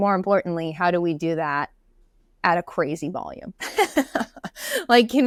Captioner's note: laughs